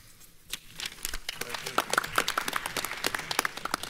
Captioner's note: clapping